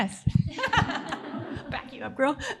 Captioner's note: audience laughing